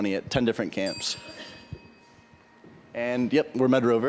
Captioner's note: ding